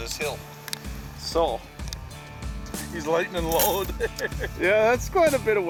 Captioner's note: laughing